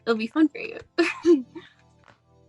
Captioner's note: chuckles; soft music